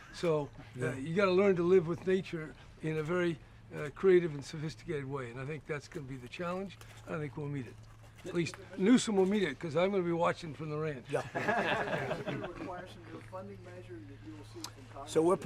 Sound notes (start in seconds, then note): 11.1 laughter